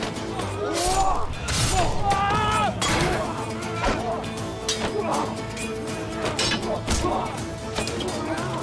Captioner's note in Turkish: Dövüş sesleri